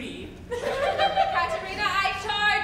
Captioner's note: women giggle